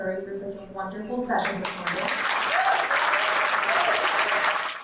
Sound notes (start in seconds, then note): 1.5 audience applauding; 2.5 audience member cheering